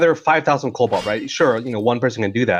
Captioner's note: mining sound